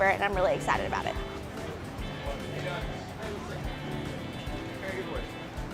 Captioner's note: bar patrons chatting